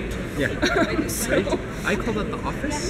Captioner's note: laugh